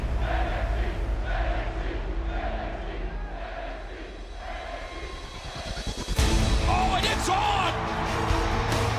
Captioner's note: fans chanting